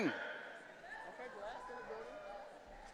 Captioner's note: none